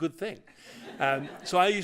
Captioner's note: laughter